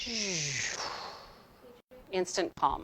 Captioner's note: imitating loud beaming